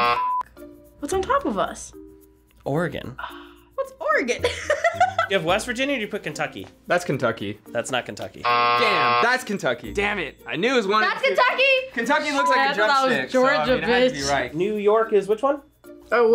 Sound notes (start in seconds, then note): 4.4 laughs; 8.4 buzzer rings